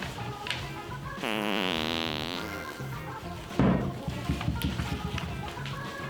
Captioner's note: farting sound as squirts cheese on cracker